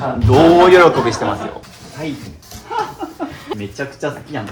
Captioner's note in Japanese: 笑い